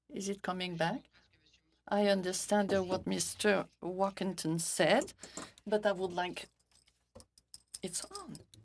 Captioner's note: speaking French